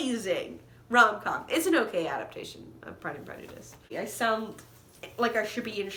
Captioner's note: with heavy lisp